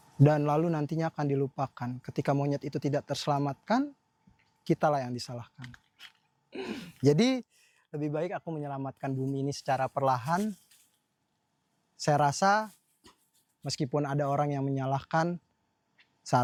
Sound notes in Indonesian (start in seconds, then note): 6.5 berdehem